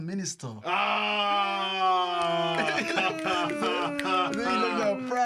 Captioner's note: laughter